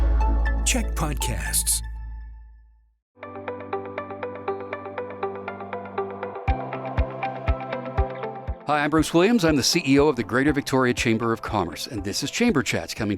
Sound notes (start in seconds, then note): 0.5 announcer voice